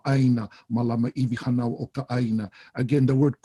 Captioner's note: speaks Hawaiian